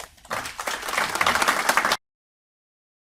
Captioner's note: applause